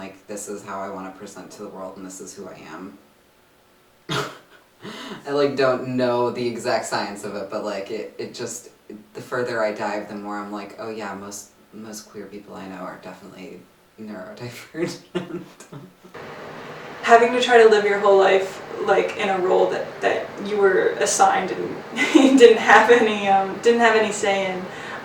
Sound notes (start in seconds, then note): 4.1 laughs; 14.9 laughs